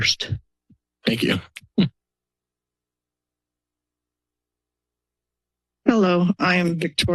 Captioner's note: silence